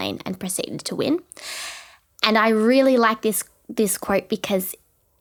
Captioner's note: none